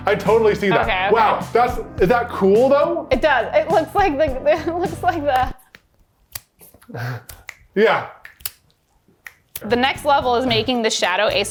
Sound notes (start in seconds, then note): 8.1 fingers snapping